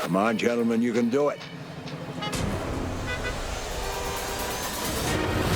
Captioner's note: car alarm